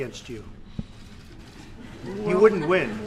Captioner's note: laughter